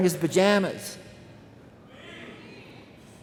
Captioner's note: crowd